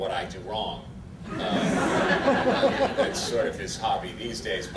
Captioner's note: audience laughter